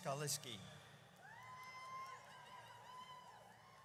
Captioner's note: audience cheers